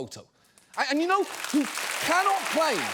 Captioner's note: audience applauds